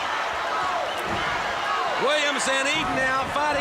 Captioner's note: crowd cheering